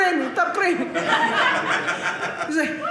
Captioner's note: audience laughing